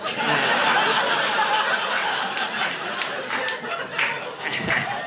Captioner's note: audience laughing